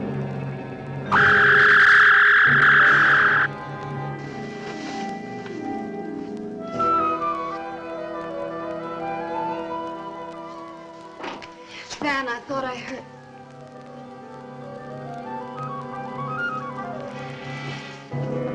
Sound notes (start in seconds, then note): 0.3 dramatic music; 1.2 zapping